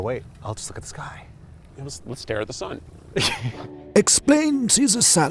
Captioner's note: laughs